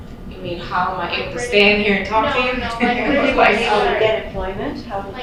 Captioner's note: chuckling in audience